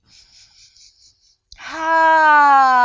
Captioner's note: inhales deeply